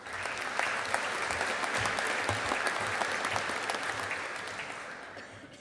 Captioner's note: audience applauding